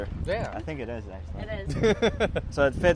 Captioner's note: laughs